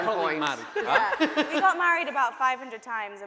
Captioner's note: voice muffled